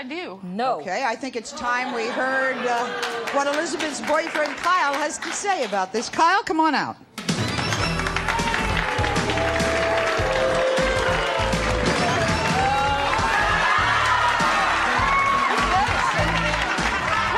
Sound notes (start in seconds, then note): 7.0 energetic music; 8.8 audience booing and applause